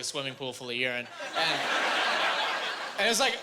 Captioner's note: laughing